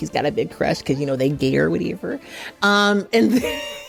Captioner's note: chuckles